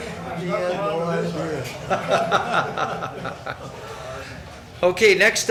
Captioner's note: man speaking off microphone; people chuckling